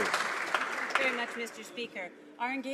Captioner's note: some Applause